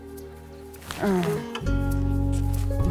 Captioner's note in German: seufzt